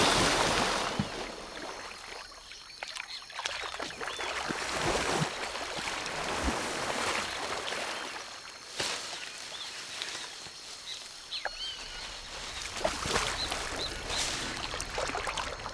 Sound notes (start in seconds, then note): 12.3 water splashing